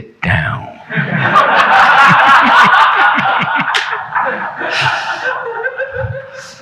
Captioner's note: audience laughing; chuckling